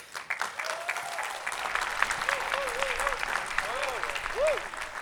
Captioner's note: attendees applauding